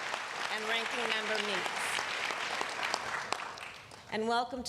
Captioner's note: applause